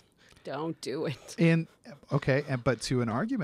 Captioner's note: laugh